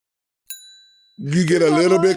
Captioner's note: text chimes